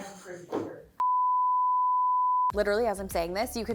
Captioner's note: beeping sound effect